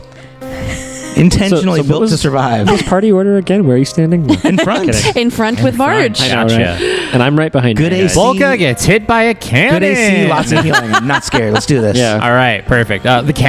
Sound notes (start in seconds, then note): 4.3 laughs; 9.8 laughs; 10.2 laughter